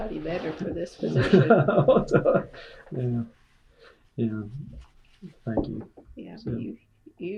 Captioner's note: laughter